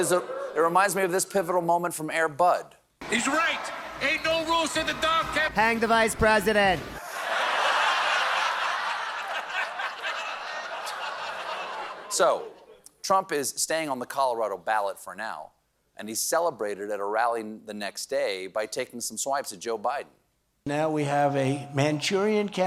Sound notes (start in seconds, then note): 11.6 laughter